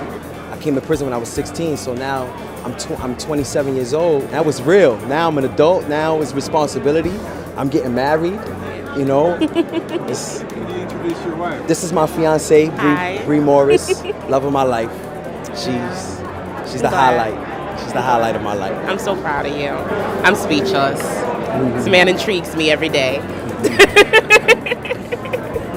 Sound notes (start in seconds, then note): 9.3 she laughs; 23.4 laughs